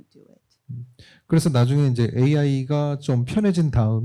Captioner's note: speaking korean